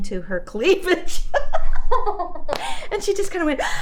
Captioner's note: laughs